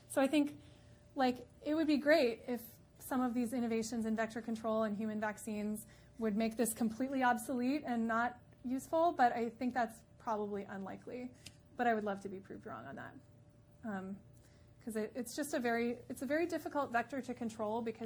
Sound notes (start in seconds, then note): none